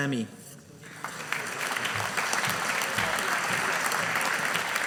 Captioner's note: audience applauding